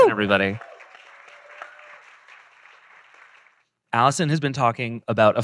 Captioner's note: audience cheering; audience applauding